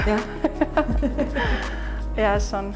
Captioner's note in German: Befreites Lachen